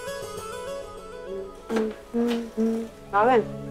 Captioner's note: Ananya humming; Door opens